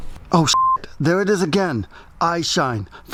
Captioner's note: beep